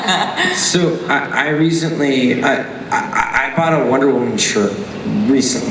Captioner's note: laughter; voiceover